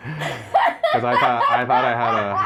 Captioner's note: laughs